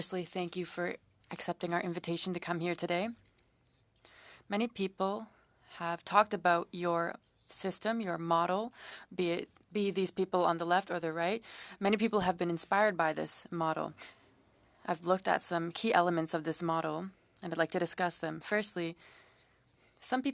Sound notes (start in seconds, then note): 1.0 speaking French